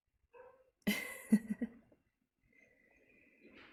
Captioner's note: laughs